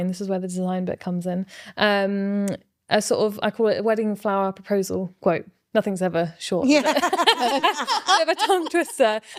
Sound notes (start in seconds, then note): 6.7 laughing